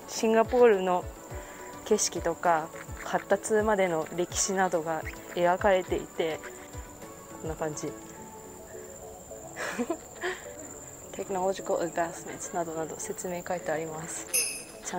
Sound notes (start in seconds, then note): 9.5 gross laughter